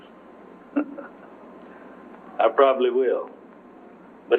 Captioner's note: chuckles